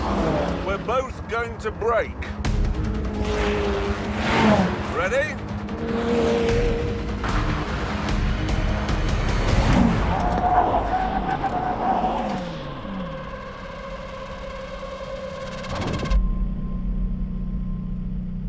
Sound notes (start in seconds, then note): 9.8 tyres screeching